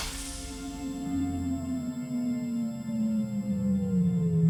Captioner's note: electronic whirring